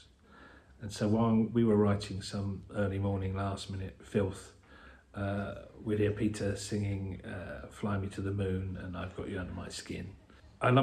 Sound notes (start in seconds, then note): none